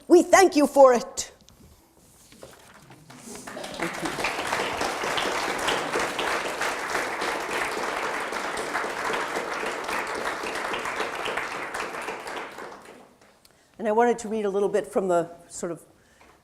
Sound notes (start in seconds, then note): 3.0 audience applauding